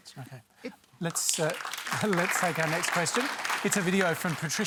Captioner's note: applause